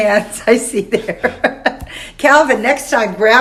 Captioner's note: laughs